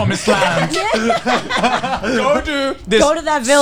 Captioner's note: all laughing